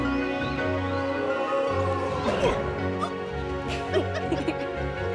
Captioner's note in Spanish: gimiendo fantasmal